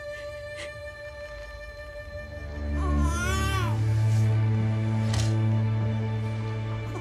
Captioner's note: baby crying